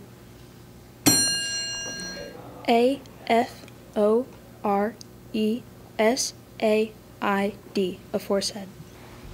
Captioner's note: ding